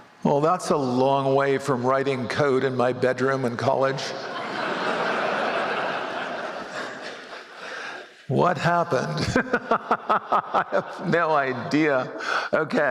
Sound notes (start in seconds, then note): 4.2 laughter; 9.0 laughs